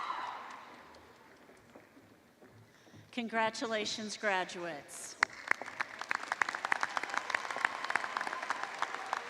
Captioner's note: applause